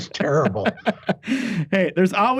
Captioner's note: laughing